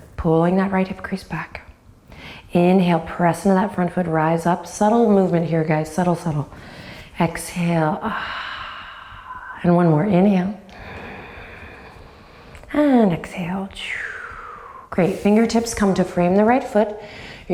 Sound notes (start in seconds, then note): 8.3 sighs; 14.0 sighs